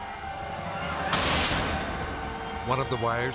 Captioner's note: electricity zaps; people screaming; electricity zaps